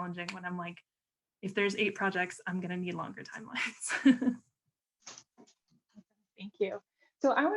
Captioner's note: laughter